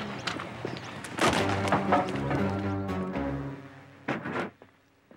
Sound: wood cracking

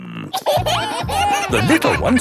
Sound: kids giggling

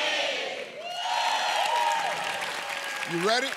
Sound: cheers and applause

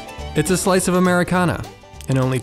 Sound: voiceover

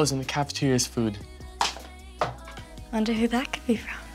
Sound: pencil dropping

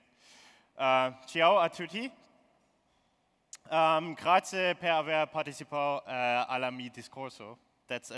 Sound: speaking italian

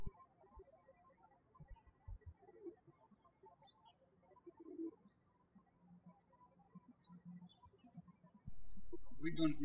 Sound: birds chirping

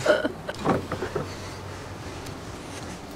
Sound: laughs

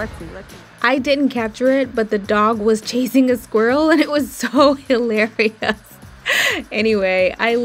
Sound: laughs

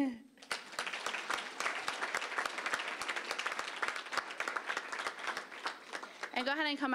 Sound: applause

